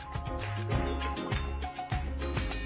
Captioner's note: applause